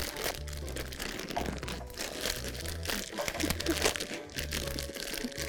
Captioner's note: quietly; bag rustles; laughs; both laugh